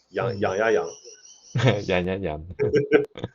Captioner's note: teacher imitating my Cantonese